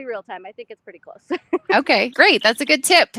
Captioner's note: laughing